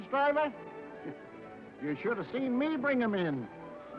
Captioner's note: scoffs